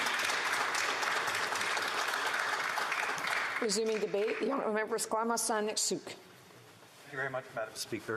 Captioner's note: applause